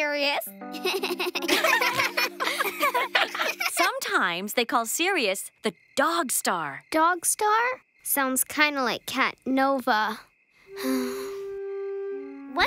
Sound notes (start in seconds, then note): 0.7 chuckles; 0.8 all chuckling; 10.7 sighs